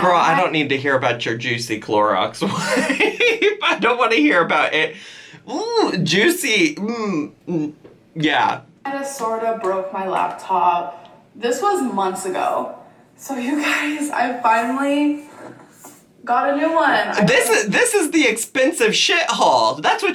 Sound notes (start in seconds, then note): 2.4 laughs; 6.9 gagging